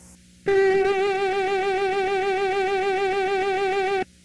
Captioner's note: high-pitched buzzing